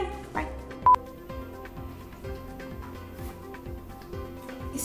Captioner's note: electronic beep